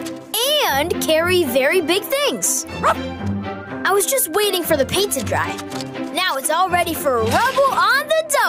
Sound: Rubble Barks

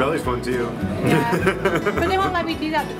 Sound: laughs

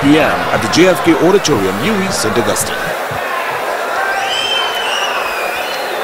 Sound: wild applause and cheering for 22 seconds

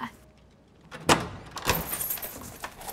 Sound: door opens

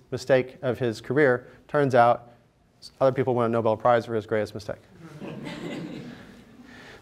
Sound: laughter

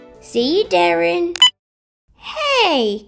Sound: beep!

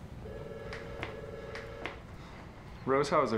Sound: loud ringing

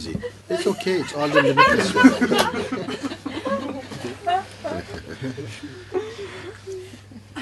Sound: laughter

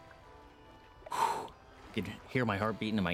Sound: sharp exhale

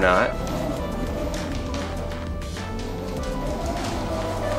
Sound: wheels whirring

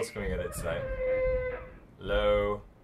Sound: baby crying

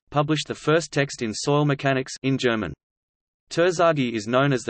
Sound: in German

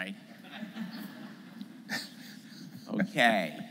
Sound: laughter

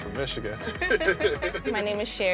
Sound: laughter

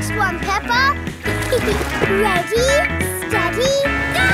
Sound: giggles

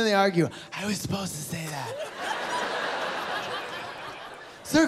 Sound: laughter

